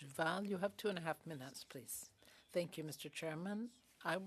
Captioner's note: speaking French